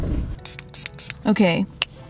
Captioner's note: sprays sanitizer